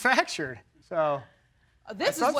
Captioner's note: laughs